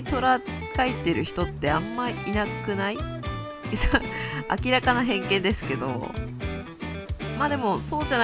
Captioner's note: laughs